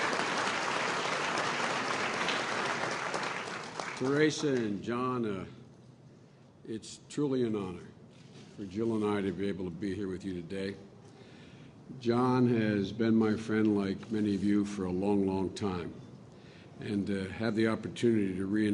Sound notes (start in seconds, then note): 3.4 applause